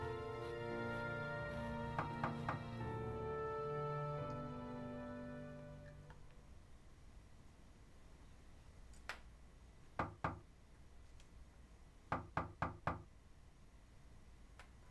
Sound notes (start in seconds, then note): 1.9 knocking on door; 10.7 knocking continues